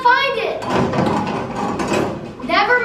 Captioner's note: objects clunking